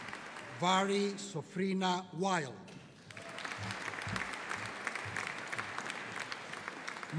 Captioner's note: audience cheering